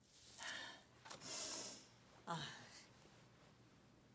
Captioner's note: exhales deeply